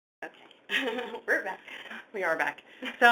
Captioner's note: chuckles